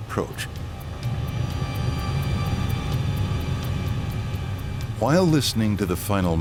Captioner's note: airplane engine roaring